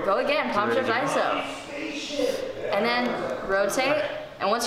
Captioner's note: people talking